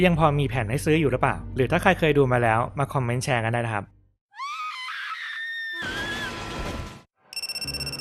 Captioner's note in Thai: เสียงกรีดร้อง